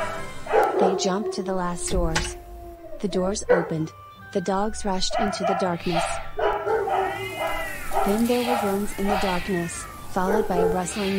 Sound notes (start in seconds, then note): 5.0 cats groan